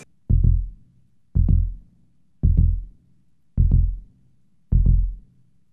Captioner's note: heartbeats